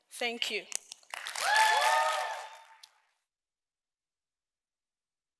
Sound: audience cheering

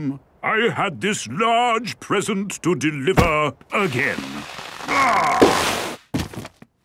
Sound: groaning

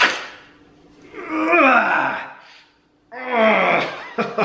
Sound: grunts

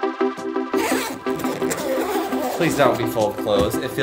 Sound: upbeat electronic music; zipping

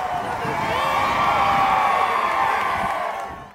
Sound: whistle blowing and crowd cheering

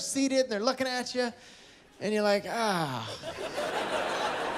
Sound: laughter

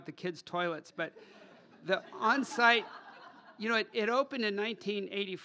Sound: laughter

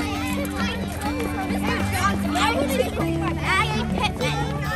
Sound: children talking

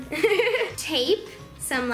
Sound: laughs

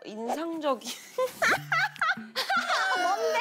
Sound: cracking up

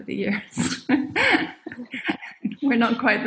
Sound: laughs

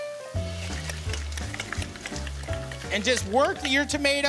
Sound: grinding

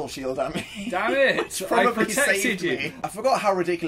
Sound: laughs

